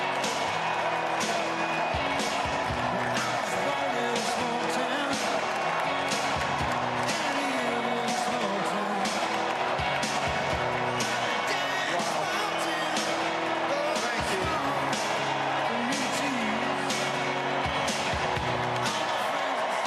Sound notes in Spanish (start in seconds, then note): 7.4 Vitores